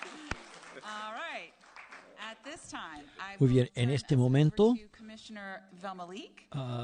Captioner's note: applause